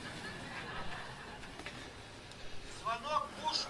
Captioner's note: crowd laughing